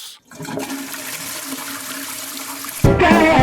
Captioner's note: toilet flushes; upbeat jazz music